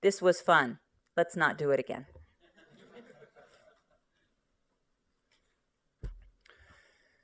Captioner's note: laughter